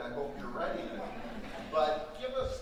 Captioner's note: audience laughing